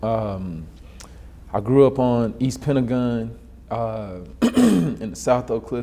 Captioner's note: clears throat